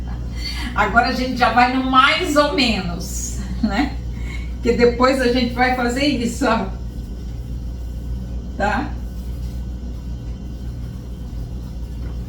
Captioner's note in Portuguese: risos